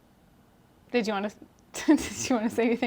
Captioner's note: laughs